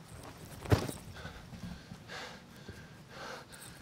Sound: ball slamming

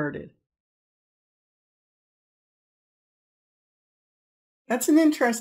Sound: silence

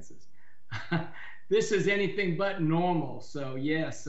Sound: chuckles

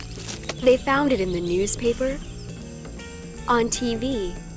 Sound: paper rustling

